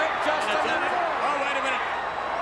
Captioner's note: overlapping chatter; crowd cheering